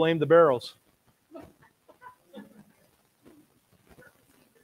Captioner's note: audience laughs